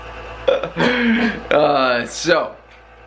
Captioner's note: chuckling